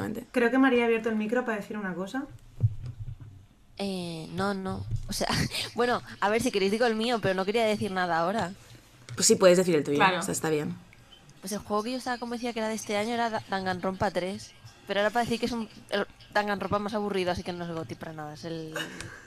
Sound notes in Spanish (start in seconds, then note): 5.3 risas